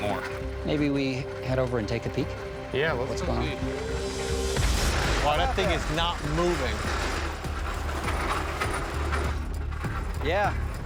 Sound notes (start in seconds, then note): 7.6 metal grinding